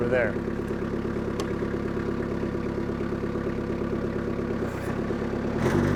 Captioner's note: skid steer engine roaring